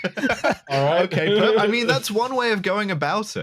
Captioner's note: laughs